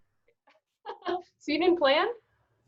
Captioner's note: laughing